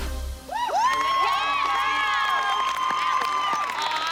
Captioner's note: cheering, applause